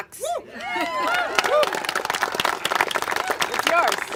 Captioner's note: congregation applaud